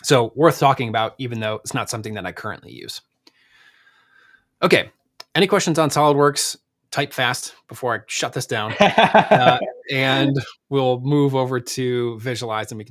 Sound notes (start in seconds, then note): 8.6 laughs